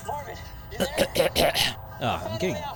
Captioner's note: clears throat